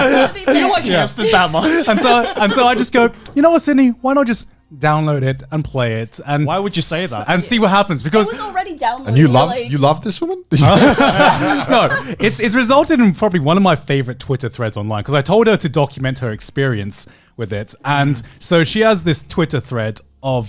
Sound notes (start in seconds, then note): 0.0 laughing; 10.6 laughing